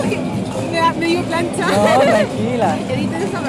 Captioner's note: nervous laughter